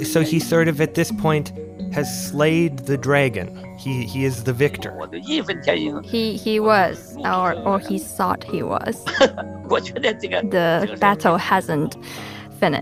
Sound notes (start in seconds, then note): 5.7 speaking Mandarin; 12.2 laughs